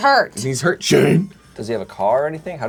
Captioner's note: mimics growling while speaking